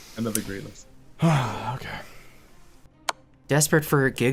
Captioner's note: sighs